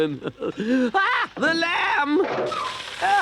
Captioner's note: Toad yells